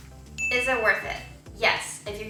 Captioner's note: ding